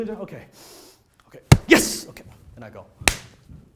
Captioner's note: body clap; clap